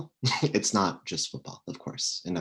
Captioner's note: chuckles